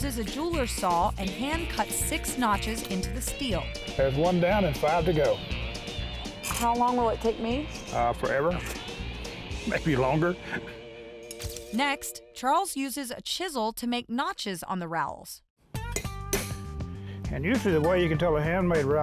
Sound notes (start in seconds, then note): 9.6 laughing; 16.2 chiseling